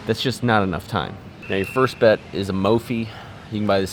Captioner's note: none